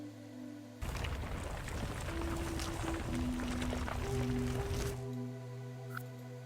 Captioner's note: gravel sounds